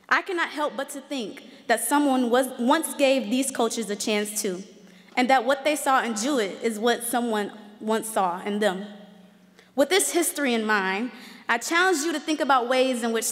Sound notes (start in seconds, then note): none